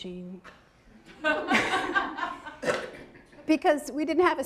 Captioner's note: audience laughing